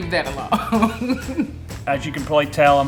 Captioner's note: laughs